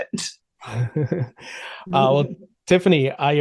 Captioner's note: chuckles